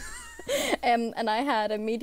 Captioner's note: hosts laugh